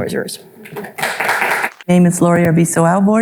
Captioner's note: audience applauding